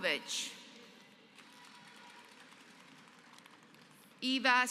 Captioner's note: applause